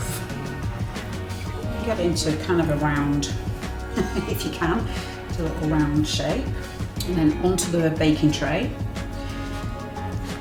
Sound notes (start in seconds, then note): 3.6 laugh